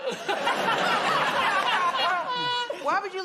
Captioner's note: laughter